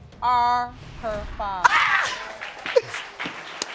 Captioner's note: crying